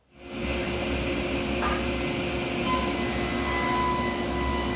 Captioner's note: saw whirring